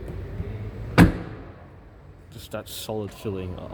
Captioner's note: slam!